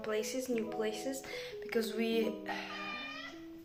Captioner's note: meowww